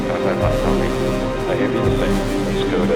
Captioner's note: Launch Control chatter